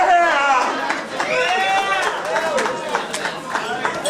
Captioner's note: audience cheering